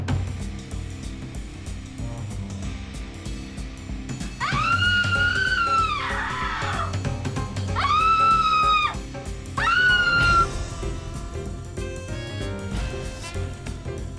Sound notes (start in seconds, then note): 4.4 screaming; 9.5 hysterical screaming